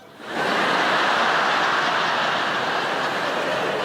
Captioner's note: laughing